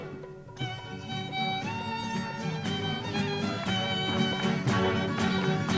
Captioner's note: clapping